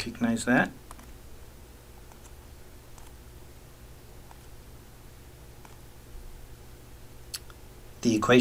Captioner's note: writing Sounds